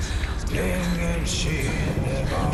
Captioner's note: indistinct chatter